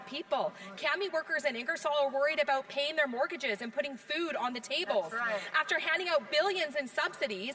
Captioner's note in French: voix de l'interprète